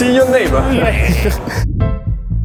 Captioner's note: laughter